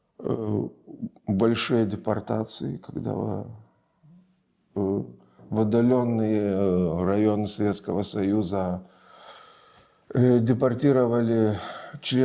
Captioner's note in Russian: вздыхает